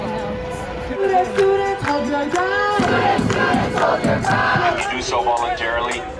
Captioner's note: chanting